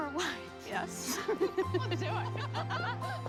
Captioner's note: all laughing